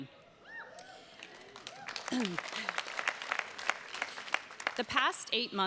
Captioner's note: attendees cheers and claps; clears throat